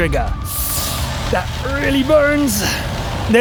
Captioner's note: sharp inhale